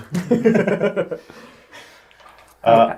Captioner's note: all laugh